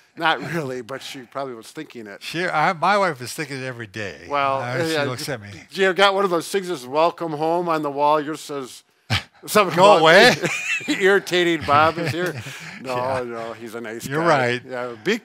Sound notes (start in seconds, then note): 9.6 laughing